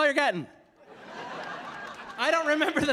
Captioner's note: audience laughing